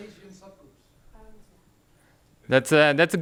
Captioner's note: woman speaking off microphone